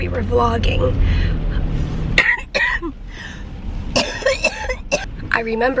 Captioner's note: coughing